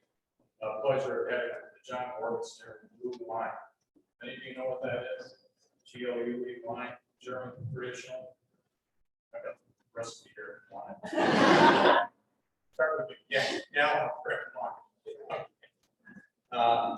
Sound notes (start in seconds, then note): 10.8 laughter